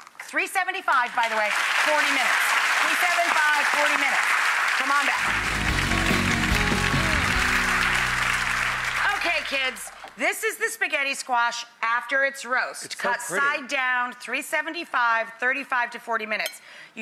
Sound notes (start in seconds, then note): 6.0 audience applauding; 7.0 lively music